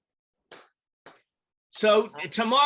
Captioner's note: claps hands